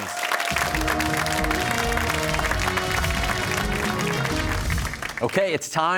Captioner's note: cheers and applause